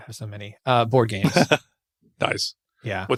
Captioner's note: laughs